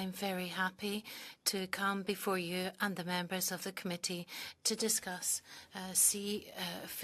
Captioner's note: speaking French